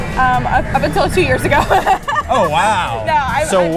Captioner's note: laughs